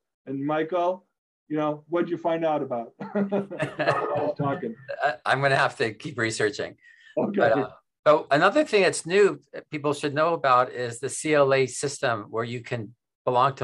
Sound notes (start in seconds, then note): 3.0 laughing